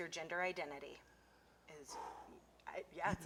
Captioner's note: exhales forcefully